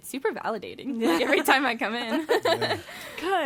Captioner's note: laughs